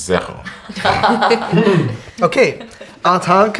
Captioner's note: group laughs